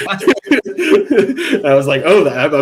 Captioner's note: both laughing